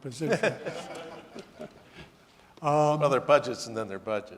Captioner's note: audience laughing